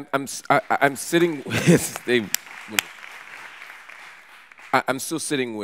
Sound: audience applauds

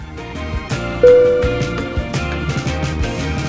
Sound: upbeat music; dinging

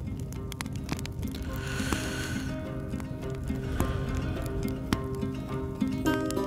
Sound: deep breath

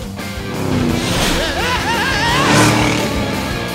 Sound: screaming

